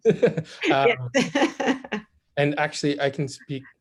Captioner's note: laughs